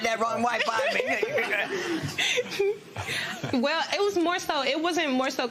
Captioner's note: laughter